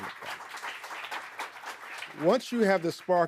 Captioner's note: audience applauding